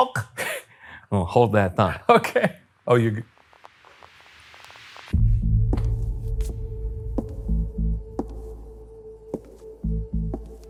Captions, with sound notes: - Well, hold that thought. - (laughing) Okay! Oh, you... (suspicious music)